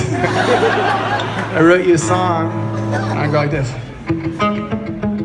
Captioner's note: laughs